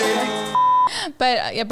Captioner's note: beep